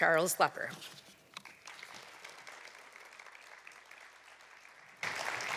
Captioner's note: applause